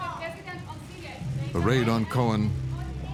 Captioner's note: reporters calling